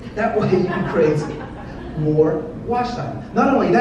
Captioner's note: audience laughs